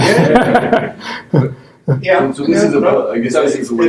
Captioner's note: laughing